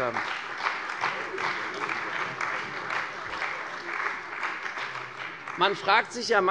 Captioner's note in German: Beifall bei der CDU und dem BÜNDNIS 90/DIE GRÜNEN